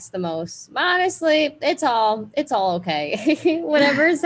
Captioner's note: laughs